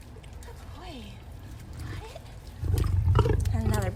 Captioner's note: lion growl